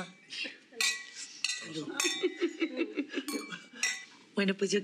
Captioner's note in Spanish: choque de copas